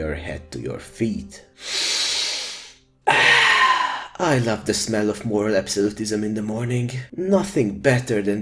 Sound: sniff

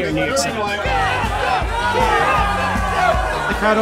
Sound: chanting

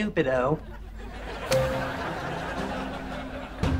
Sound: beeping

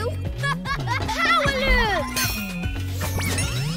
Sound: laughing

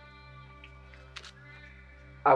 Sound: pizza rustling

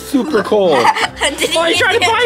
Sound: laughs

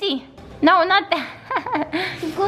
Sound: laughs

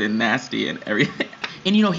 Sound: laughs

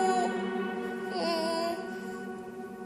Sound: whines

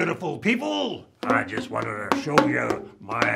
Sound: bamboo bonks

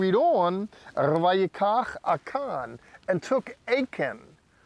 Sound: speaking in Hebrew

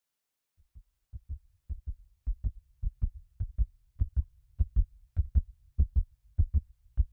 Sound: rapid heartbeat fading in; heartbeat fading out

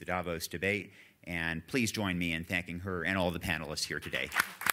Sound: applause

